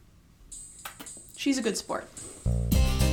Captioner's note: kiss